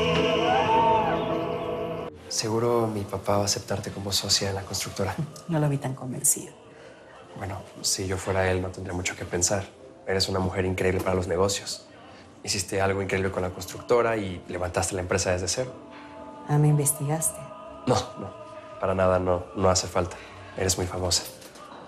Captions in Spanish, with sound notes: [Grito] - NO LO VI TAN CONVENCIDO. - BUENO, SI YO FUERA ÉL, NO TENDRÍA MUCHO QUE PENSAR. ERES UNA MUJER INCREÍBLE PARA LOS NEGOCIOS. HICISTE ALGO INCREÍBLE CON LA CONSTRUCTORA Y LEVANTASTE LA EMPRESA DESDE CERO. - AH, ME INVESTIGASTE. - ¡NO, NO! PARA NADA, NO... NO HACE FALTA. ERES MUY FAMOSA